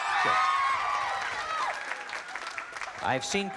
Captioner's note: cheering, applause